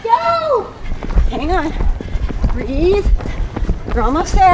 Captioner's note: panting